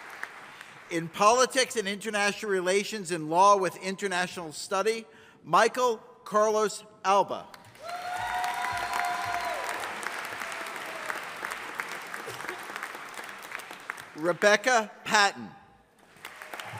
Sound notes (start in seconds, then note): 7.6 audience applauding; 16.0 audience applauding